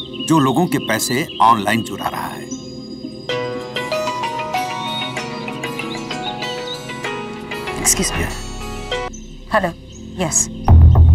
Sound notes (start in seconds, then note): 3.2 Phone ringing